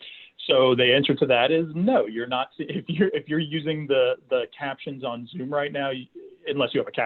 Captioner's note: chuckles